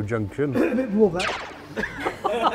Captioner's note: cough